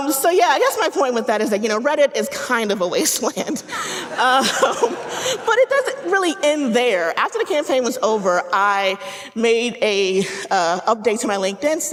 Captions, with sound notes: So yeah, I guess my point with that is that, you know, Reddit is kind of a wasteland. (audience laughing) But it doesn't really end there. After the campaign was over, I made an update to my LinkedIn